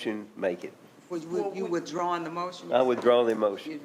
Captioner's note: stammering